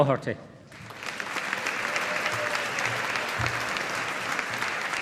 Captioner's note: audience applauding